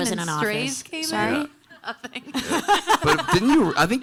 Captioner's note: panelists laughing